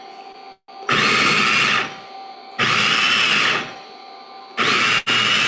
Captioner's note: processor whirring